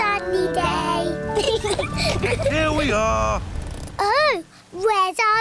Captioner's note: both laugh